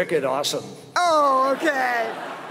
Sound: laughter

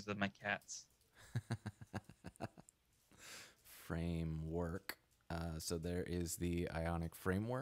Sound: laughing

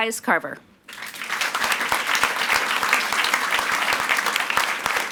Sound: audience applauds

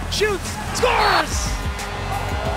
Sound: whistle blowing; buzzer blaring

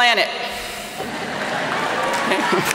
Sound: laughter and applause

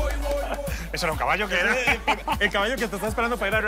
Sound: laughs

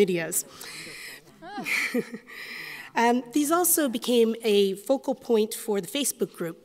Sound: chuckles

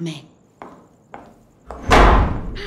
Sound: footsteps; door slamming shut

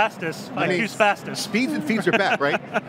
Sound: laughs

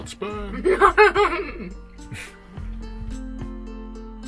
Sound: laughs

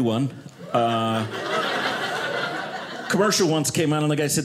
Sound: audience laughing

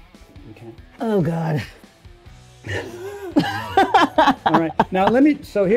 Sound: laughs

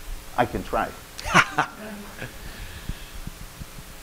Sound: laughing

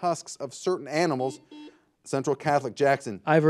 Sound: buzzer buzzes

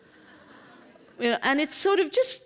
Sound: laughter

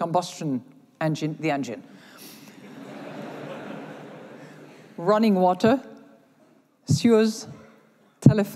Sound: laughter

